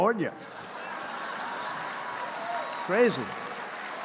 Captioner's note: laughter